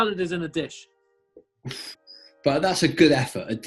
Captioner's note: exhales